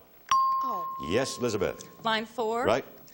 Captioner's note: chimes